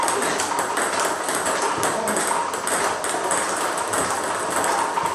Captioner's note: ball ping pong hitting continues